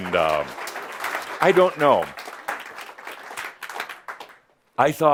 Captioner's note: audience applause